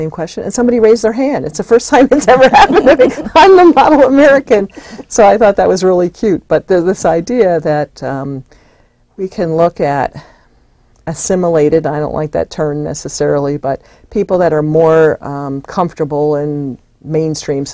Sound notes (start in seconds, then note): 2.1 laughs